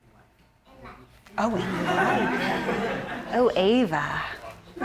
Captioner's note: audience laughing